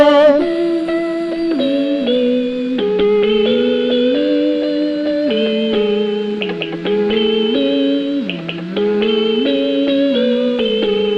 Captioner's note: humming